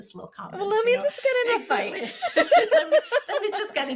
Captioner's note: laughs